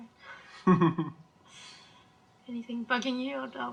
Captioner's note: cameraman laughing